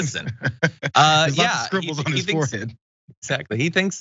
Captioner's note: laugh